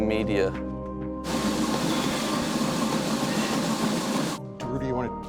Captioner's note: treadmill whirring loudly over dramatic electronic music